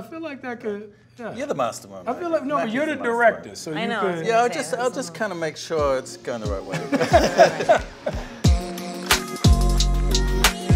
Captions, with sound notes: I feel like that could, yeah. - You're the mastermind. - I feel like-- Mackie's the mastermind. - No, but you're the director. So you could-- - I know. I was gonna say it. - Yeah, I'll just, I'll just kinda make sure it's goin' the right away. (all laughing) (mellow music)